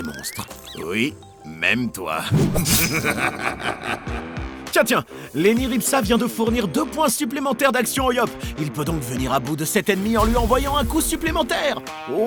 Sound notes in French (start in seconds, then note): 2.6 rire démoniaque